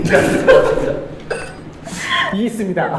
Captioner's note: mute laugh